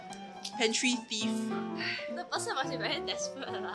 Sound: sighs

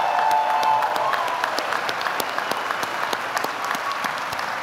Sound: audience applauding

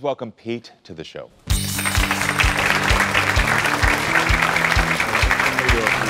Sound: upbeat music; audience clapping

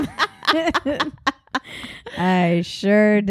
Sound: laughing

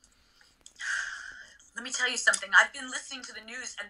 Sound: sighs

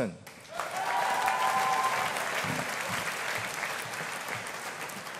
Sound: audience applauding

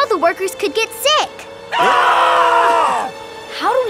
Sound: screaming

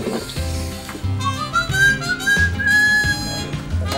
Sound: whistles a tune

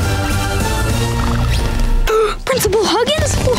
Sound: gasping

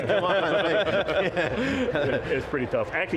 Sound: laughs

